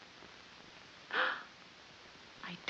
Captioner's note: gasps